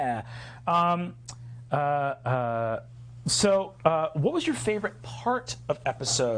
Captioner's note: none